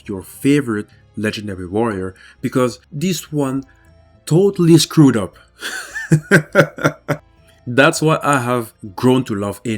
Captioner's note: laughs